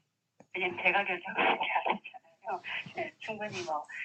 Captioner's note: laughter